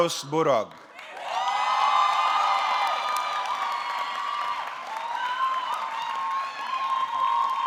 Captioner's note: audience clapping; audience cheering